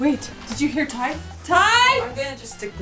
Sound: yelling

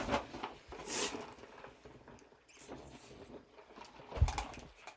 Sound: slurping on vanilla latte

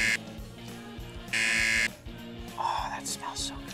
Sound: buzzer

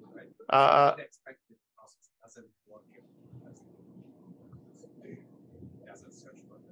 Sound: faintly speaks

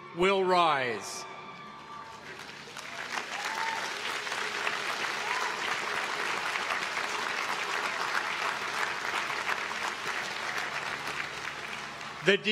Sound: applause

